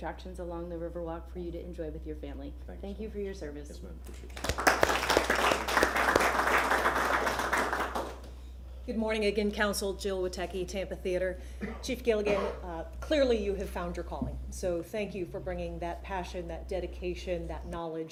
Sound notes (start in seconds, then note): 8.6 applause